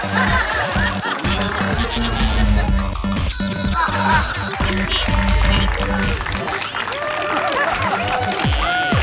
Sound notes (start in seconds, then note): 0.2 crowd awing; 2.5 BB-9E sounds; 4.7 crowd cheering